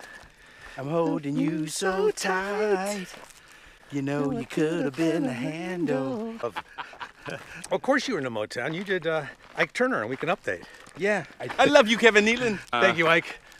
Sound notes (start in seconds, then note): 6.7 laughs; 11.6 impersonating Ike Turner